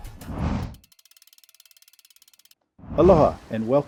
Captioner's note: whoosh; compass spinning